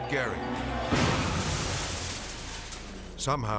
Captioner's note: truck crashes; glass shattering